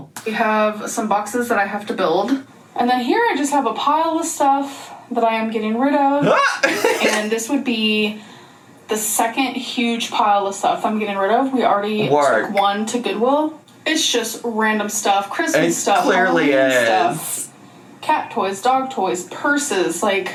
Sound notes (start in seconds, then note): 6.2 laughs